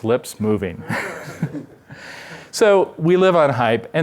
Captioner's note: laughter